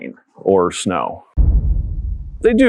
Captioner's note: thud